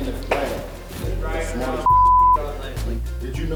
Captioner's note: beep